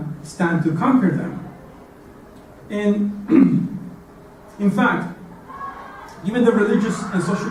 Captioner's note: cough